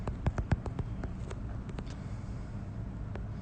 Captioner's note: typing